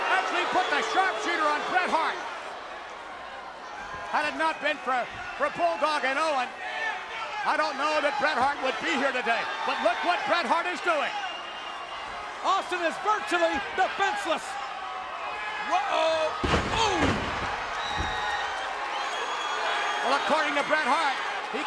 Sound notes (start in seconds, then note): 17.8 audience cheers